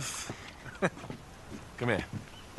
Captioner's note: laughs